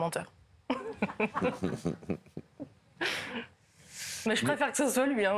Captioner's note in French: Rires